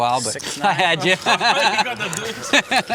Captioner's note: laughter